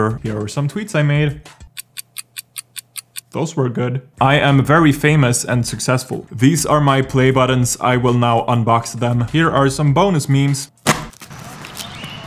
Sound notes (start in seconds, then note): 1.6 clock ticking